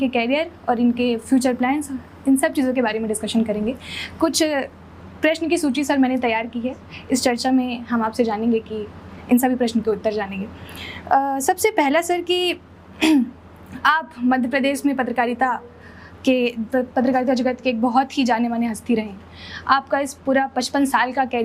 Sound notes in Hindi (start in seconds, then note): 13.0 गला साफ़ करने की आवाज़